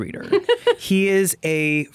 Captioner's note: laughing